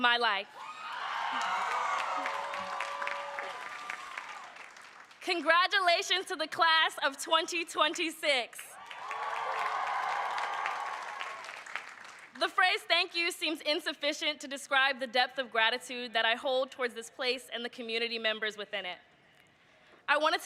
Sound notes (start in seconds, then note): 5.4 cheers and applause